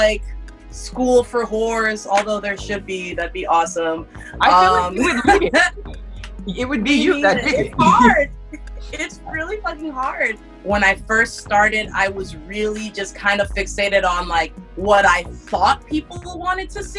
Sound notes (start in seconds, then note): 9.8 nervous laughter